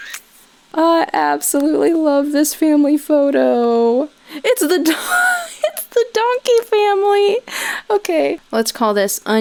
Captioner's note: in-game camera shutter sound effect; loses breath laughing